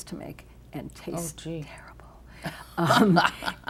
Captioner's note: whispers; laughs